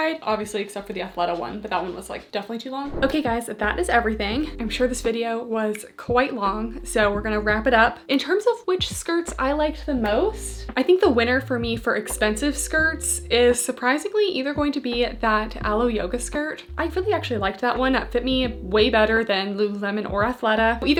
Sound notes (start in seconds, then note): 2.8 screen whooshing; 4.5 gentle music